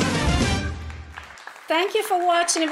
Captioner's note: applause